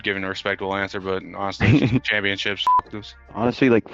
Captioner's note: beep